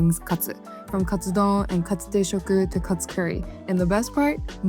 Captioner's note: speaking Japanese